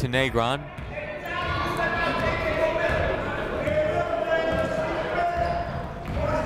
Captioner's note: people shouting in the crowd